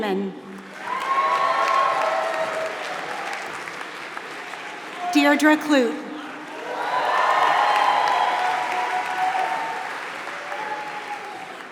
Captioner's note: applause